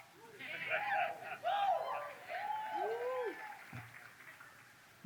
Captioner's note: audience cheers